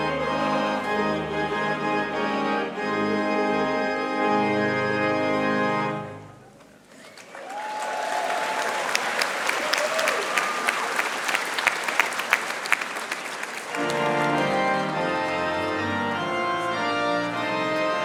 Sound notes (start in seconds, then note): 6.9 audience applauding; 13.8 dignified music